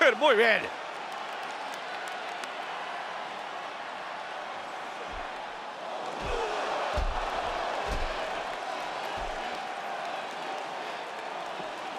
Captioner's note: applause